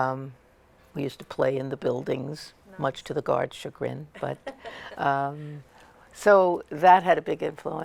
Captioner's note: laughter